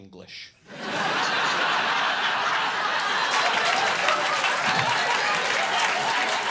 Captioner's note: audience laughing and applauding